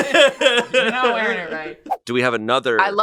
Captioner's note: laughs